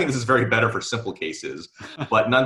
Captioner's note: laughing